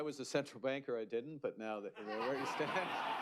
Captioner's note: laughter